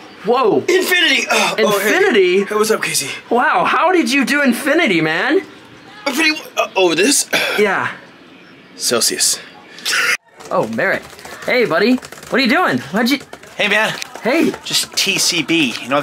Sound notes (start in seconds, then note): 6.2 grunts; 9.9 snickers